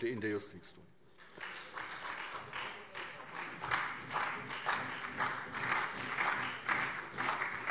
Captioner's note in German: Beifall SPD und vereinzelt CDU